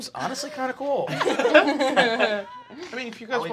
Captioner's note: laughing